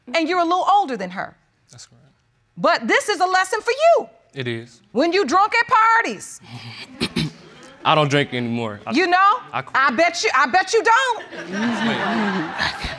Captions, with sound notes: And you're a little older than her. That's right. But, this is a lesson for you. It is. When you drunk at parties... (CLEARS THROAT) I don't drink anymore. I quit. You know... I bet you... I bet you don't. (ALL LAUGHING)